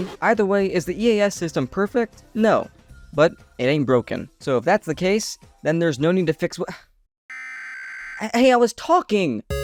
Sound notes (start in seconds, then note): 7.3 EAS header plays